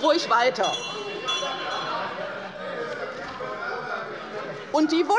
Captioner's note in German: Anhaltende Unruhe - Glockenzeichen der Präsidentin